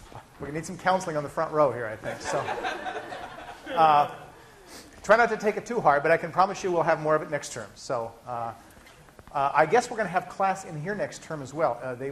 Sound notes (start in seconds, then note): 2.0 laughter